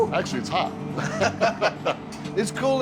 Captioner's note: both laughing